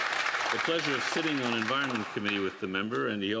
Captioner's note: applause